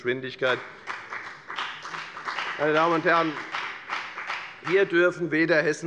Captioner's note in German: Beifall bei der FDP